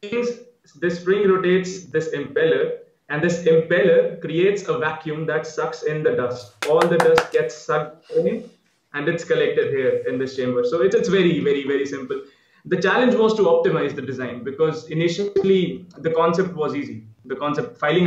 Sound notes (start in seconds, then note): 6.6 interviewer claping